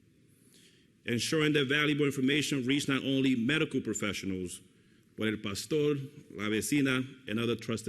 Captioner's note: foreign language